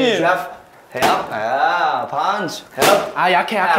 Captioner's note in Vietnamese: Cười